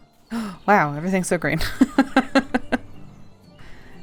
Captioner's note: laughs